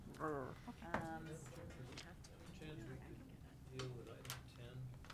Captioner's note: board members murmur